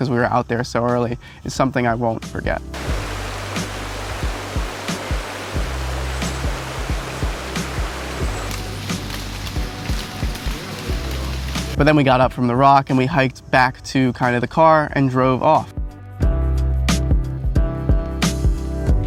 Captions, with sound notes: 'cause we were out there so early, is something I won't forget. (mellow music) (water streaming) But then we got up from the rock and we hiked back to kind of the car and drove off. (mellow music)